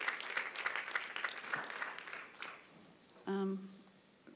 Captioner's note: applause